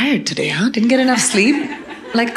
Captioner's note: audience laughing